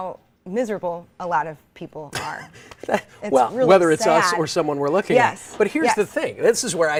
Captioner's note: laughing in background